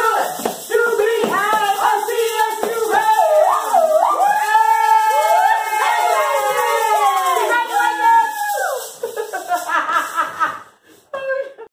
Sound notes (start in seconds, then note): 3.6 cheering; 8.8 laughing